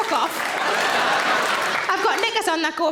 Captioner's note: audience laughing